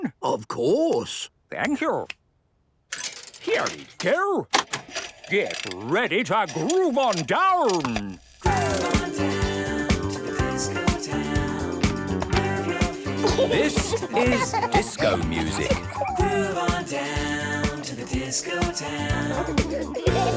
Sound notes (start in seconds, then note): 6.4 clicks, whirring; 8.5 disco music plays